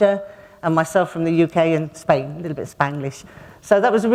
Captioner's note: a little bit of Spanglish